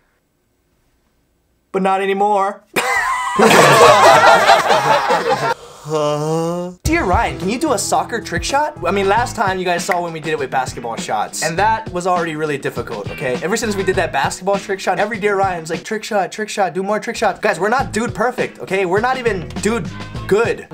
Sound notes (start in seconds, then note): 2.7 9 laugh